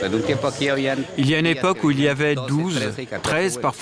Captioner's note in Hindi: स्पैनिश बोलते हुए